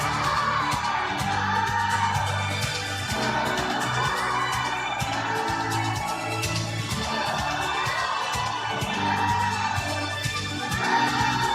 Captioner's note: audience applauding